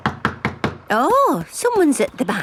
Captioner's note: knocking at door